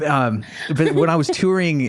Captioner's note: laughing